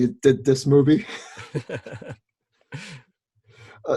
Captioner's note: laughs